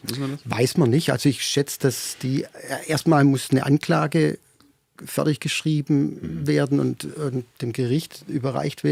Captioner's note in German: räuspern